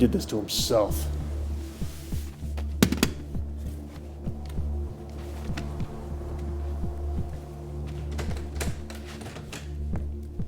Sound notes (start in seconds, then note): 3.2 gun clattering; 3.2 tense music